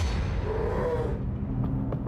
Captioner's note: ominous music; bear roaring